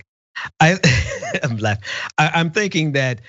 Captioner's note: laugh